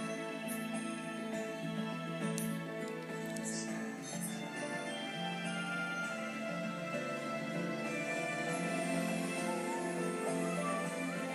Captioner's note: whistling Along to Music